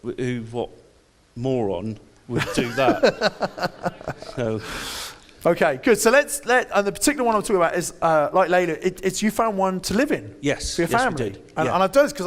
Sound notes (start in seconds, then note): 2.3 laughs